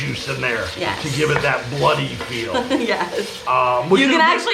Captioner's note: chuckling